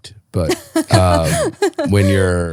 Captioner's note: laughing